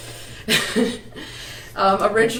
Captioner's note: chuckles